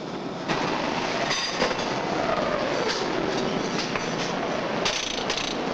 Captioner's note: machinery rumbling